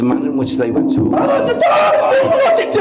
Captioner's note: door banging